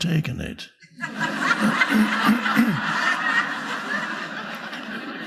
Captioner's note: audience laughing